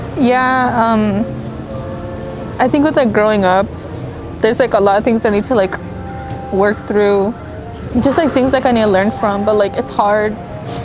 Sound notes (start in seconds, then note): none